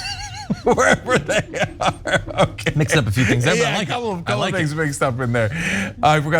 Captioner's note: laugh